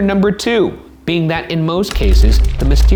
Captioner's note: keyboard clicking